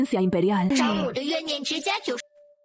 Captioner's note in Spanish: Suspiro